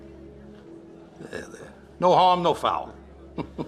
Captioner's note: chuckling